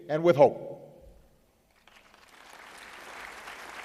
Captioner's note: applause